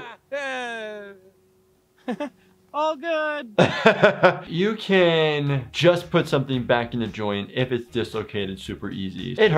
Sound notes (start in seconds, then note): 2.0 laughs